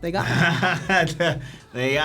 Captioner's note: laughs